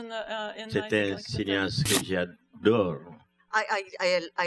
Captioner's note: speaking french